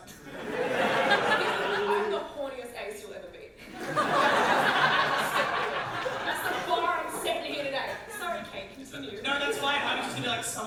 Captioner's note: audience laughter; audience laughter